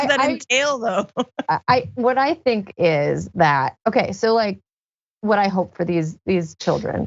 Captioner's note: laugh